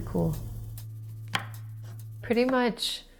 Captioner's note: chopping sounds